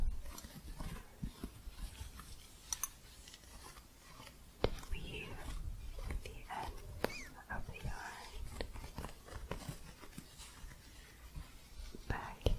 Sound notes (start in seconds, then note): 0.7 soft scratching and gentle jingling